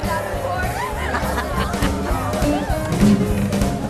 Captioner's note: laughing